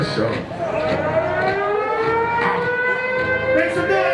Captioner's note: siren wailing